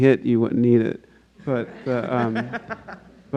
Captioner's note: audience laughs